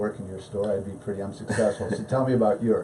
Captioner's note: laughs